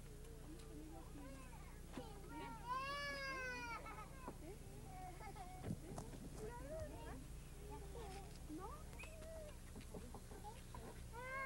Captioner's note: people talking